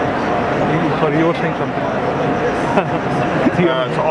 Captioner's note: chuckles